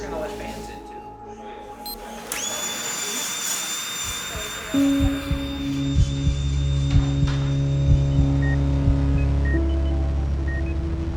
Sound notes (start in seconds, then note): 1.6 people chattering; 1.7 machine whirling; 1.8 machine beeps; 8.2 machine beeps